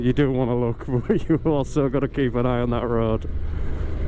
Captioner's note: laughter